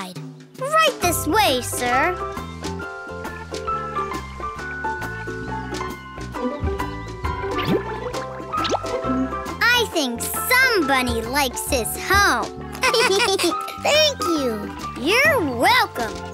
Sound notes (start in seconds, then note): 12.8 laughing